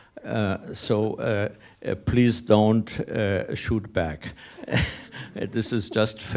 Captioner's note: laughs